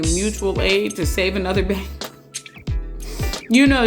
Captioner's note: chuckles